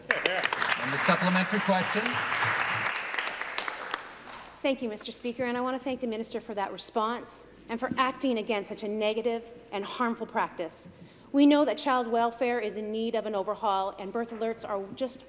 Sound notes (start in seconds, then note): 4.6 applause